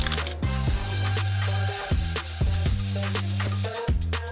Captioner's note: paint gushing